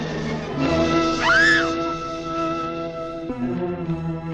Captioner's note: Julie screaming; somber music